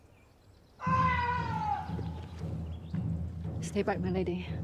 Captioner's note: peasant screams